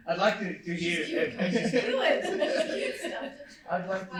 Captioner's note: man laughs